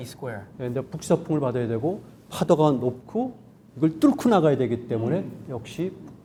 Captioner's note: speaking in Korean